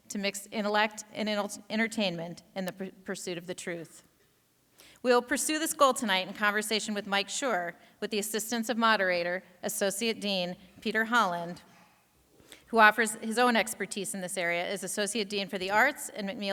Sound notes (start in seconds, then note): none